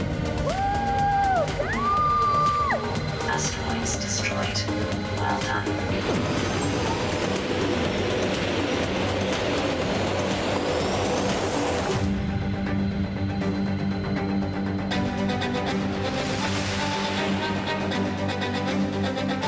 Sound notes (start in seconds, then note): 0.4 whoops loudly; 5.6 spaceship zapping; 15.6 fast-paced music